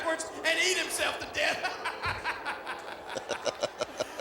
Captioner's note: laughs